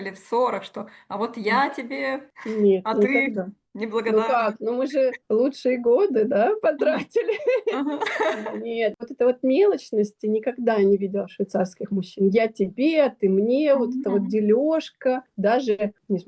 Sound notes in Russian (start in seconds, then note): 6.8 смех